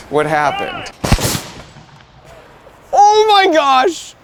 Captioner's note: cannon firing